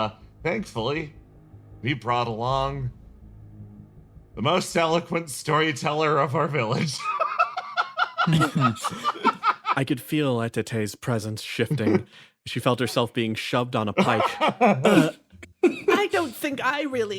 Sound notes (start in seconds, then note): 6.7 laugh